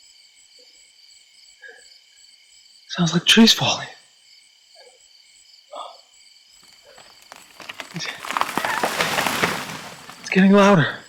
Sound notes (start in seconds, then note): 4.8 Bailey breathing heavily